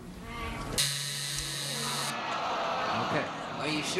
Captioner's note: buzzer sounds